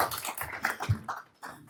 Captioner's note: applause